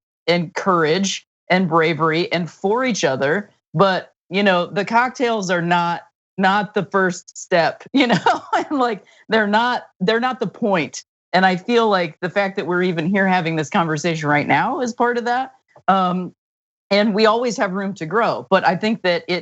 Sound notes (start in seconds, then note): 8.4 laugh